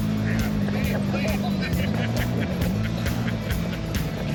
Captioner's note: laughs